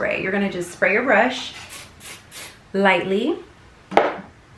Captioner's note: bottle spritzing